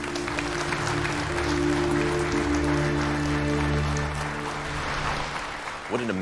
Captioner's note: applause